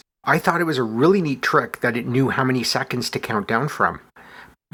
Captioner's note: none